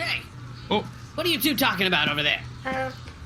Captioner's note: accusatory